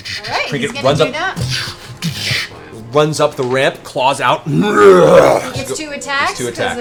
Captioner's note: roars